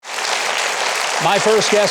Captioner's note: audience claps